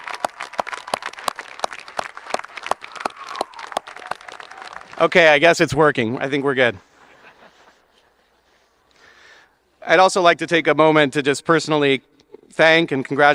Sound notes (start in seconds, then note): 6.9 audience laughing